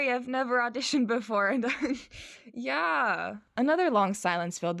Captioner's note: awkwardly laughs